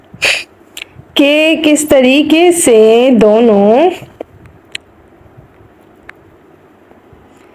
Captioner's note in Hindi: नाक से की जाने वाली आवाज़